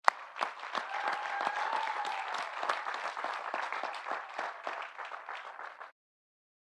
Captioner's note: audience applauding; audience cheering